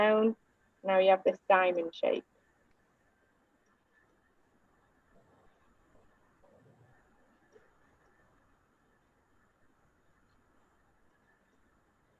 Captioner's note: silence